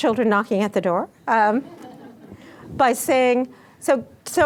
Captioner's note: laughter